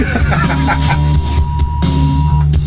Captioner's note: loud beep